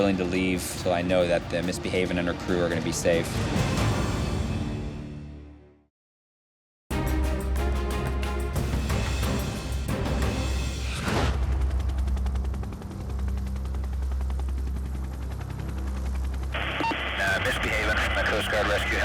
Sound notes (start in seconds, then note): 4.0 dramatic music; 6.9 upbeat music; 12.6 helicopter blades whirring